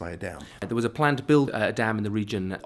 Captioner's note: voiceover